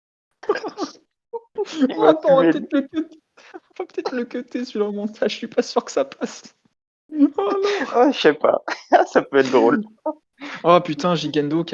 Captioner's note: laugh